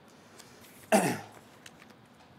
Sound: clears throat

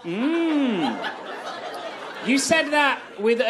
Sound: audience laughs

